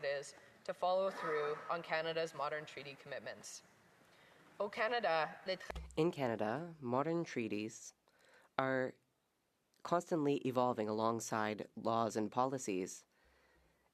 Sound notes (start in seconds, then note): 9.1 speaking French